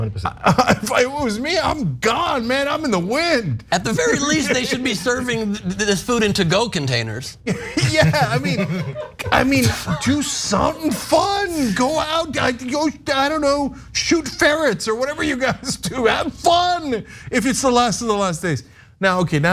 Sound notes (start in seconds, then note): 7.5 laugh